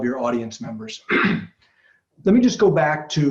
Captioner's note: clears throat